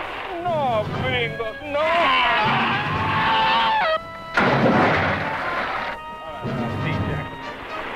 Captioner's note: screams; water splashing